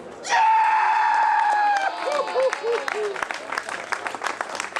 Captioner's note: applause